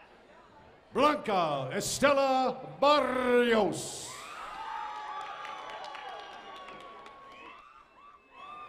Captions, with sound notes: AND WE HOPE HE CAN MAKE IT BACK TO TO HIS SEAT[APPLAUSE]